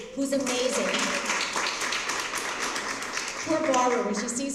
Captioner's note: applause